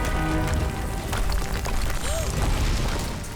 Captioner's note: gasping